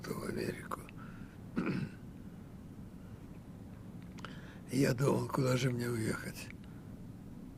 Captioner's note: clears throat